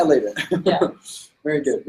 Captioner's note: laughs